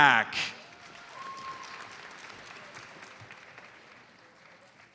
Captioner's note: audience applauds